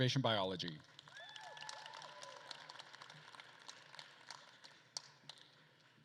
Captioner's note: attendees cheering and applauding